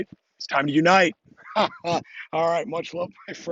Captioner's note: laughs